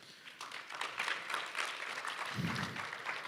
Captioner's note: applause